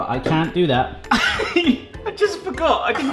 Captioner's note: laughs